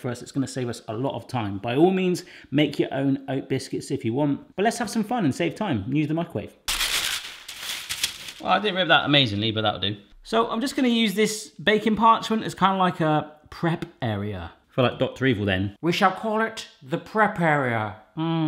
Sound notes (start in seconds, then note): 6.7 scratch; 6.7 rustle